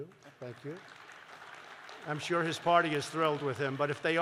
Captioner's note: applause